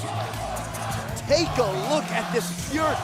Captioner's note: crowd cheering